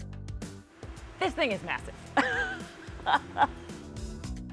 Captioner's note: laughs